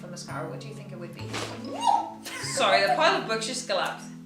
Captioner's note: pile falls